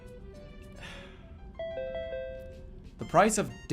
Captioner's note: exhales